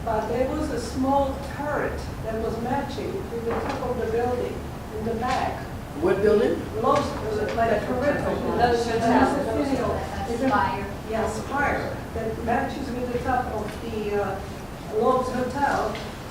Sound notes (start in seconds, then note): 7.5 audience chats indistinctly